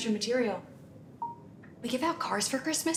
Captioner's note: phone bleeping